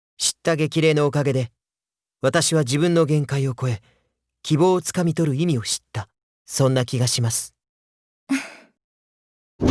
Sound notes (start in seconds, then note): 8.3 chuckle